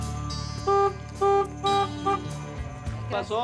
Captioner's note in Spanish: suena un claxon